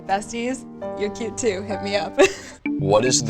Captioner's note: laughs